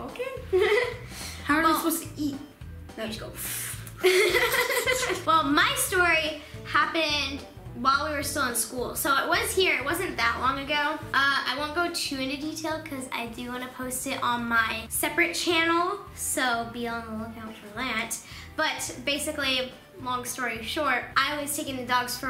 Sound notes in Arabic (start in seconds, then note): 4.0 يضحك